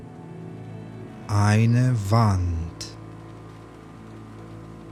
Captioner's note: german